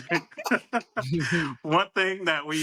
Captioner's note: laughs